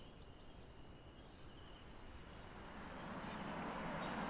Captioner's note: nature sounds